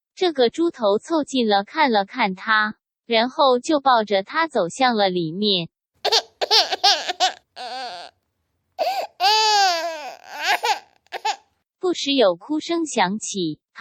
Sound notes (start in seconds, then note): 9.0 baby Crying